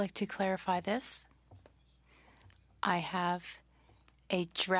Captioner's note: speaking French